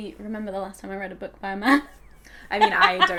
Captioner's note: laughing